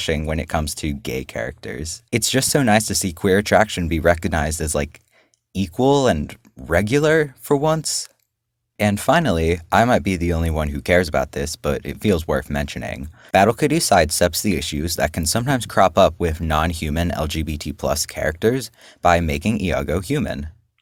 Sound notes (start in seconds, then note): none